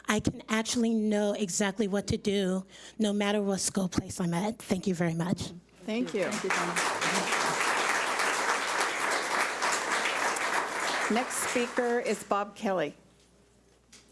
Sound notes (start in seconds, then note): 6.1 audience applauds